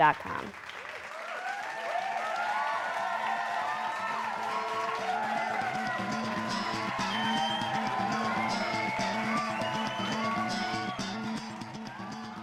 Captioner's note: applause